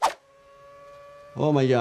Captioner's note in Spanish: motor acelerando